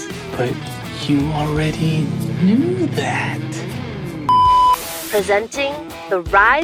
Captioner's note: beep